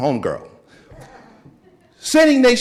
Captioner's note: audience chuckling